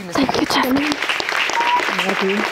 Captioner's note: audience applauding